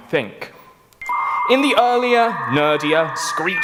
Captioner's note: dial-up sounds